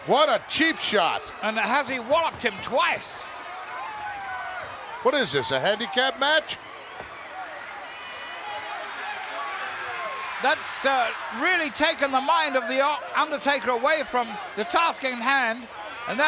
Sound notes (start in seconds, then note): 8.2 crowd chattering